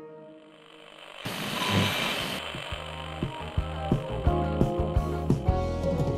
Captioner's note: bright music; static buzzing; energetic music